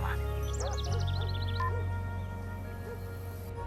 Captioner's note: phone beeps off, dog barks